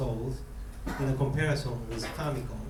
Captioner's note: coughing